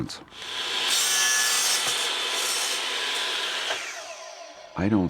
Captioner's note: saw running